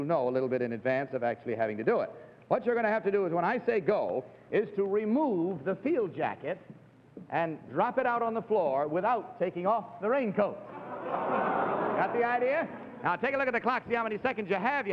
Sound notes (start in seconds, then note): 10.7 audience laughs and murmurs